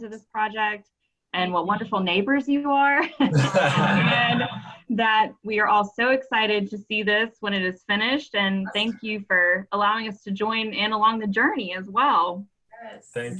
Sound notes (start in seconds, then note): 3.1 laughing